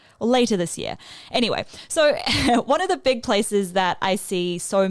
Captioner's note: chuckles